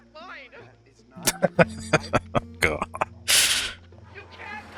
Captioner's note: laughing